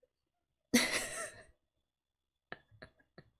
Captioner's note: laughs